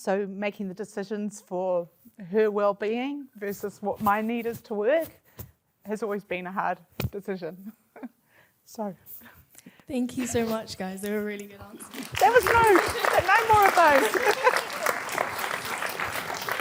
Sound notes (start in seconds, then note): 7.9 chuckles; 14.3 audience applause